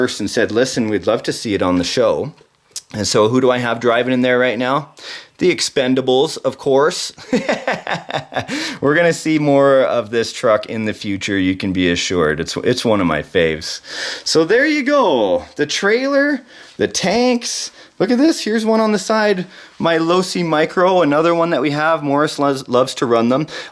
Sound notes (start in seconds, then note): 7.2 laughing